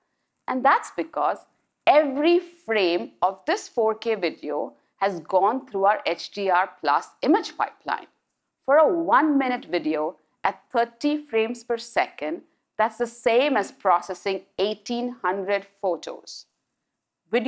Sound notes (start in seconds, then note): none